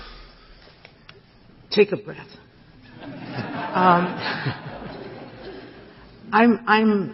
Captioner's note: laughter